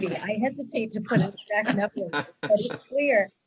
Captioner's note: distorted sound